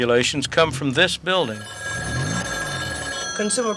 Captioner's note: telephone ringing